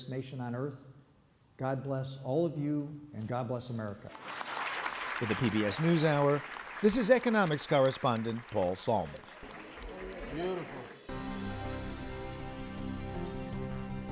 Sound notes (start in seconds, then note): 10.3 applause